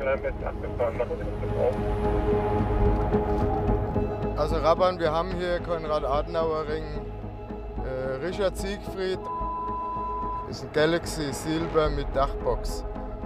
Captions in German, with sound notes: Also, Raban, wir haben hier Konrad-Adenauer-Ring. Äh, Richard-Siegfried ... (Piepton) Ist ein Galaxy Silber mit Dachbox.